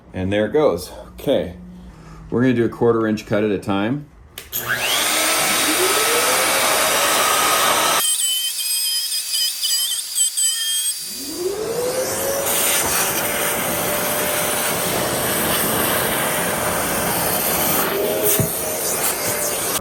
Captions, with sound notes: and there it goes. Okay, we're going to do a quarter inch cut at a time. (machine whirring) (clippers buzzing)